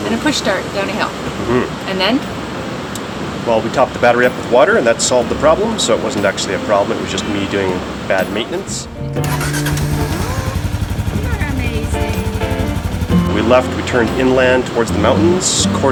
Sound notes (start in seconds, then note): 9.1 engine starts